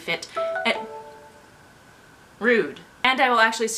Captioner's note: phone chimes